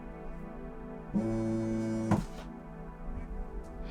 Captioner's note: mobile phone vibrates